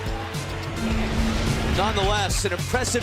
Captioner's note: bell ringing